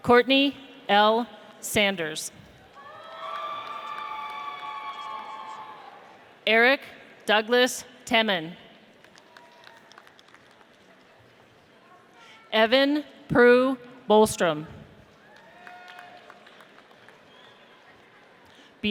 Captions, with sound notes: Courtney L. Sanders. (audience cheers) Eric Douglas Teman. (audience applauds) Evan Proulx-Bostrom. (audience applauds)